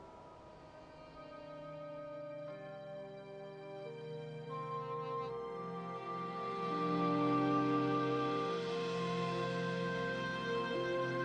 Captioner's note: bell tolling